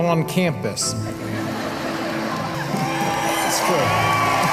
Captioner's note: applause